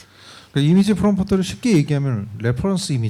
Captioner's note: speaking korean